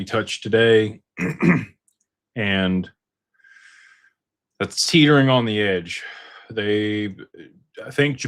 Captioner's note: clears throat